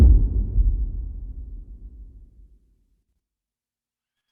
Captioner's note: dramatic sound